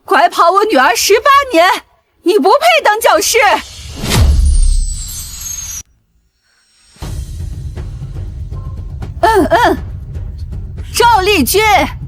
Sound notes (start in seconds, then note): 9.2 coughing